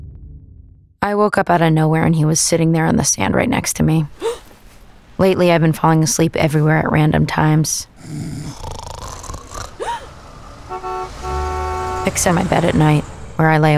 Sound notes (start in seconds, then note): 4.1 gasps; 8.0 snoring; 9.6 gasps; 10.5 car horn honks